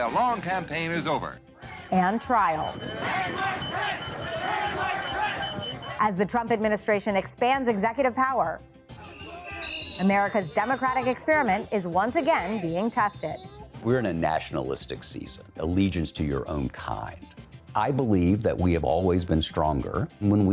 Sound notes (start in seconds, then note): 1.5 crowd